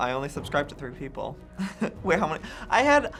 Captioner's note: chuckles